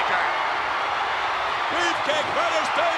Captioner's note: audience cheering